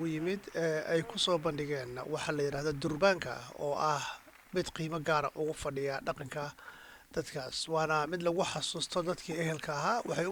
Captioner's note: applause